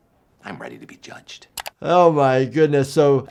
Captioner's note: clothes rustling; mouse clicking